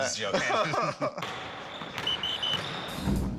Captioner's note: both laugh